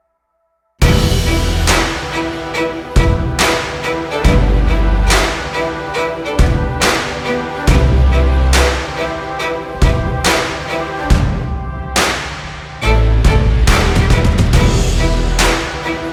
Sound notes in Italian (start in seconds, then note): 8.6 Applauso